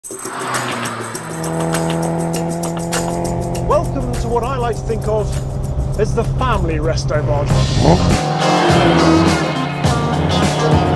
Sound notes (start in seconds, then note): 0.1 upbeat funky music; 1.3 engine revving; 7.7 upbeat funky music